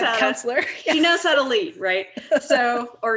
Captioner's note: laughs; laughing